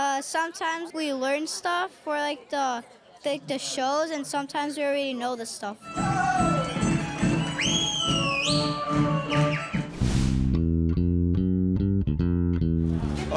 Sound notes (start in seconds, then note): 5.9 spectator shouts; 6.0 spectator whistles; 8.3 lively folk music; 9.8 air whooshes; 10.0 relaxed bass music